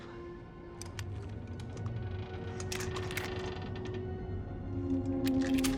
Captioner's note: pensive music; ship creaking